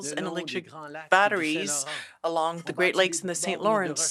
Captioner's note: speaking French